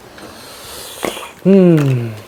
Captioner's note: inhaling!